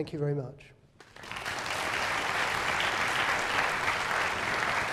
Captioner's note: applause